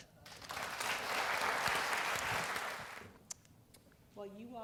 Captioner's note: applause